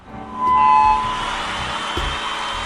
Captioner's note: microphone screeching; applauding and cheering